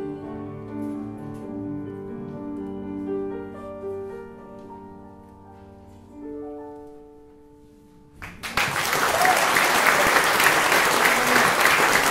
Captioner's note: applause